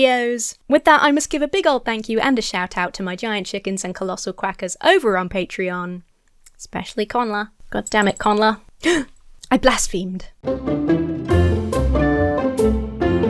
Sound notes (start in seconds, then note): 8.8 gasps; 10.4 lighthearted music